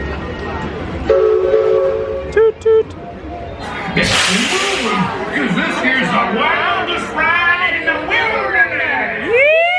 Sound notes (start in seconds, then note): 1.1 train horn toots